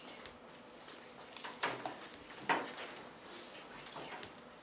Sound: quiet discussion continues

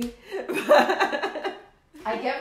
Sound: laughing

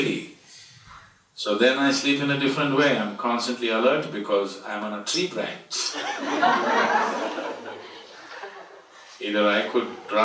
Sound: laughter

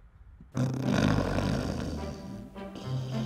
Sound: snoring

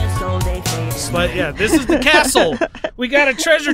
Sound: laughs

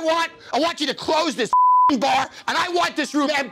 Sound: beep

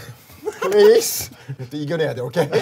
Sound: bursts into laughter

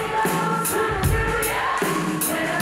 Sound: crowd cheering

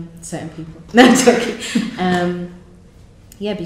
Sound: laughs; laughs

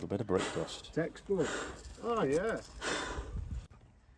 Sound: breath blowing

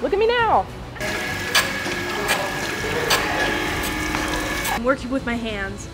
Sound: machine whirring

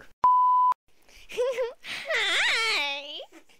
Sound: giggle

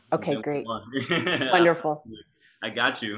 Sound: laughing

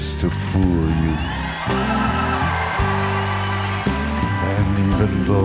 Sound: loud cheering

